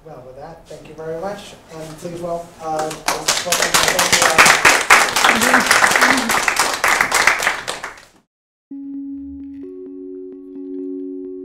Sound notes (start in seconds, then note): 2.7 crowd claps; 7.4 chuckles